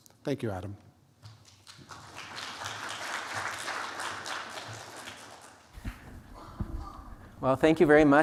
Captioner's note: applause